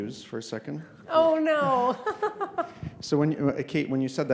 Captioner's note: chuckles